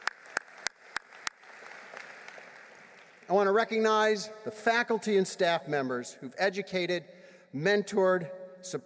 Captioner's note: applause